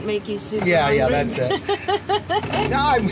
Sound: laughs

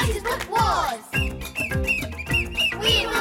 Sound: whistle blowing

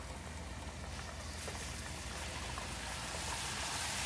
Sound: liquid sizzles

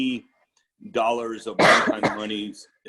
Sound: coughing

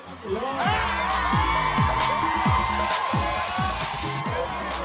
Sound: crowd cheering, shouting

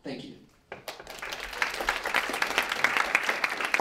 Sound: applause

